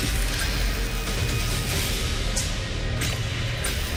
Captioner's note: electricity crackling; intense music